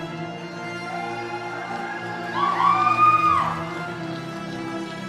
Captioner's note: audience cheering